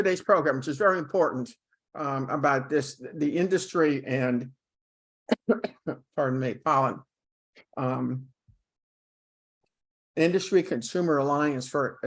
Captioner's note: coughing